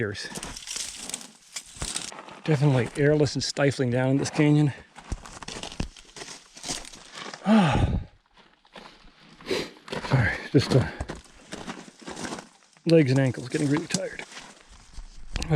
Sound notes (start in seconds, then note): 0.2 twigs crackling; 5.1 gravel crunching; 7.4 sighs